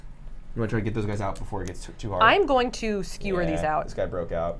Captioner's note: none